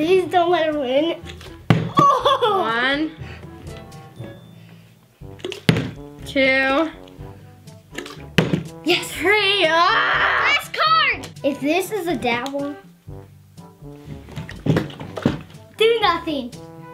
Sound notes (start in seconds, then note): 1.6 bottle landing; 5.3 bottle landing; 7.9 bottle landing